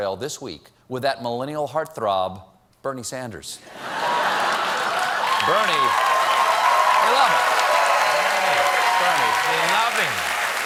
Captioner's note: cheers and applause